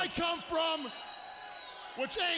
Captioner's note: attendee whistling